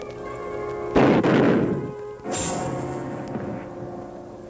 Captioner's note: gun fires